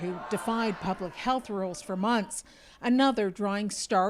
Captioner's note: chanting